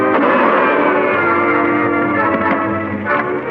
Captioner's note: gun firing; dramatic orchestral music